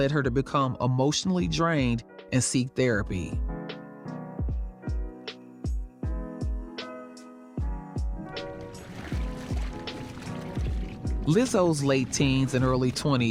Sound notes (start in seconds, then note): 4.6 gentle music continues; 8.2 water sloshing